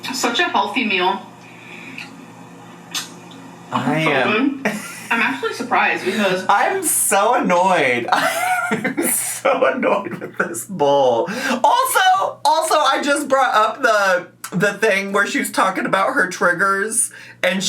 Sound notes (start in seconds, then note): 4.6 laughs; 8.0 laughs